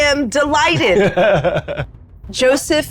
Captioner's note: laughing